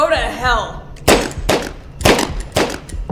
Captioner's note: gunfire